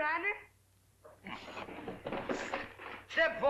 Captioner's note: sound of rummaging